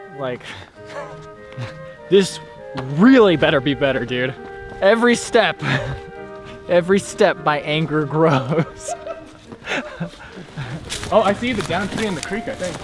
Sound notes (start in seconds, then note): 9.0 laughs in the distance